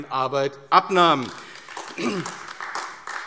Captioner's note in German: Beifall AfD